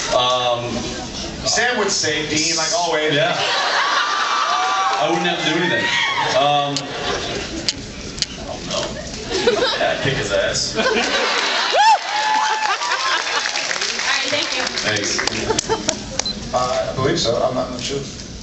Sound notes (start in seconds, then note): 3.4 cheers; 12.1 laughs